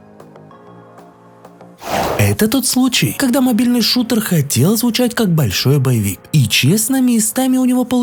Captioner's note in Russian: фыркает